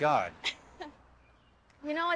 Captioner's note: Keely chuckles